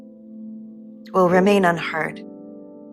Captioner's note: voiceover